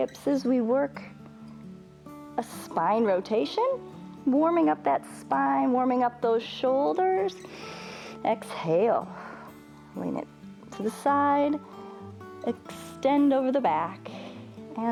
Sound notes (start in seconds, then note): 7.4 exhales; 7.4 inhales